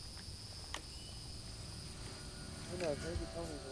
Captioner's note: tape player clicks; radio Announcer